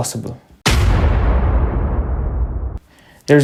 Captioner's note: explosion